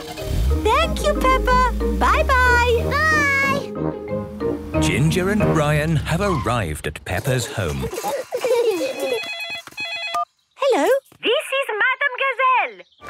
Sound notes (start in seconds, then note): 7.2 giggling; 8.8 phone ringing